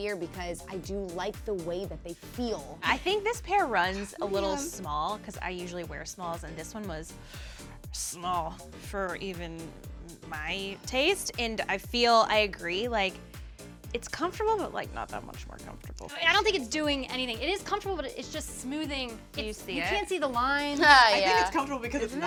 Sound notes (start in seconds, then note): 7.2 inhales; 20.8 laughs